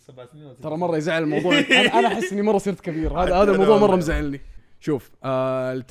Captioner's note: laughs